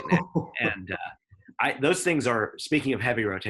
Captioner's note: laughs